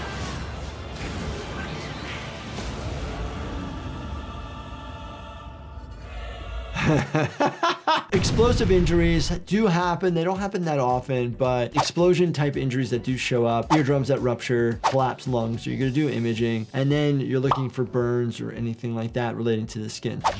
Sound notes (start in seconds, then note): 0.0 intense music; 6.7 laughing